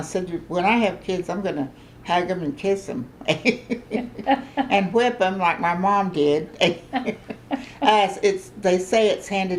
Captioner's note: laughter